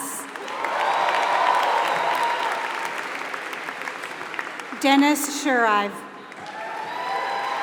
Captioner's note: applause